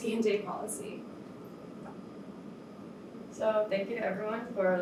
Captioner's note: air conditioner hums